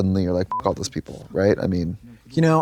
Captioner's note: beep